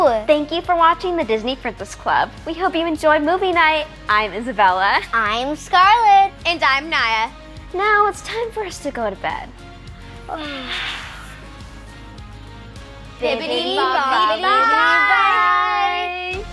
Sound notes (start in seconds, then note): 10.3 everyone yawns